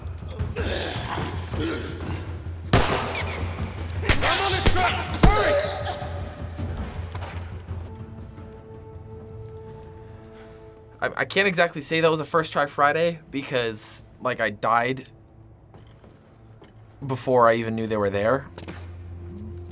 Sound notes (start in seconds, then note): 0.5 runner snarls; 2.7 gunfire; 5.6 runner yelps